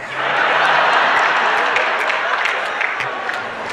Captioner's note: laughter